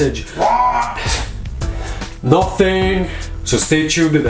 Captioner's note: sighs